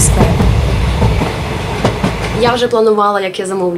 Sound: air Siren

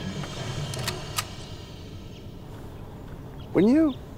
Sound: rifle clicking

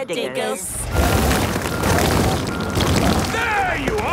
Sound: rock crumbling

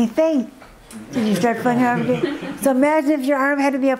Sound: audience murmur agreement

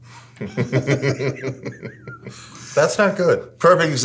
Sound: laughing

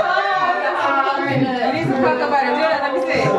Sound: laughing

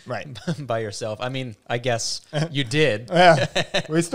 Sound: laughs

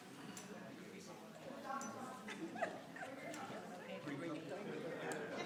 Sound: people chattering

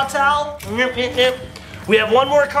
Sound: car beeping noises

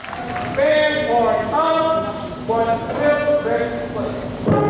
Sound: band hisses

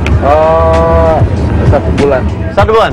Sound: speaking indonesian

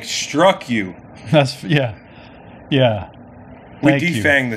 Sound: laughs

